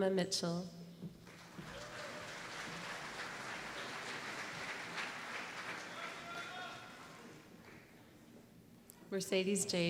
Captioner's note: applause